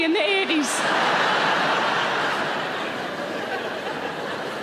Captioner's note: audience laugh